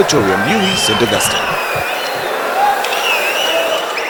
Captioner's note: wild applause and cheering for 22 seconds